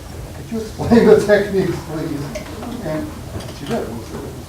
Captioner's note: chuckling